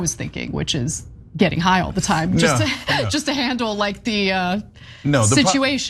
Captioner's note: laugh